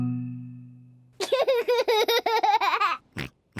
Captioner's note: giggles